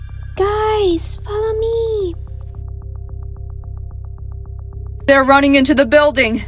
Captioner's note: whispers